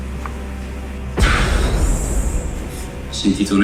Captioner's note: explosion